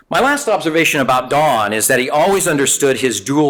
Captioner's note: none